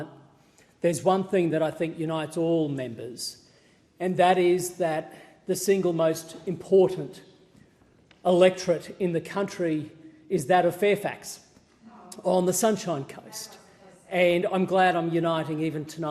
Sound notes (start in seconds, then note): 11.8 opposition members interjecting